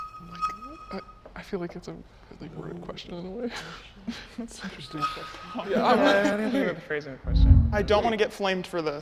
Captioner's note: group mumbles